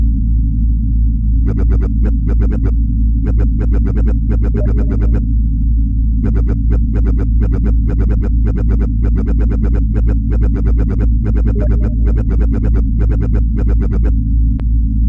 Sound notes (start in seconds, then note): 3.2 computer warbling